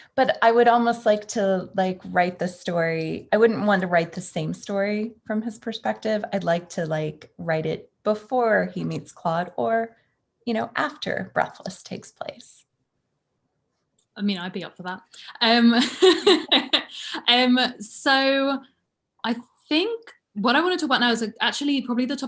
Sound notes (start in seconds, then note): 16.0 laughing